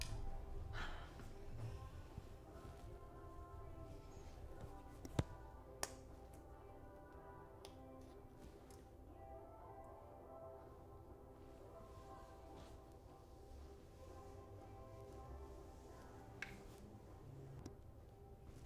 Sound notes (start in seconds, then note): 0.1 upbeat music in background; 5.8 lip stick clicks